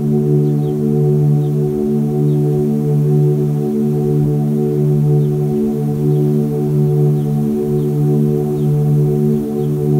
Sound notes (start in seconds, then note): 5.0 birds chirping and bees buzzing